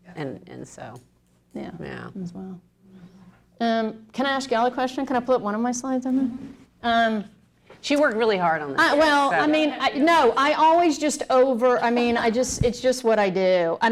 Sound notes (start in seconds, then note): none